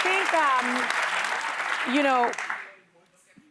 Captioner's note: applause